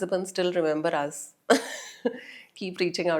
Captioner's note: laugh